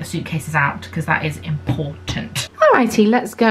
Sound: knuckles rapping

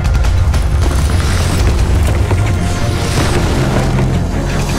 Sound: shots booming

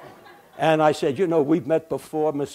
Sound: laughter

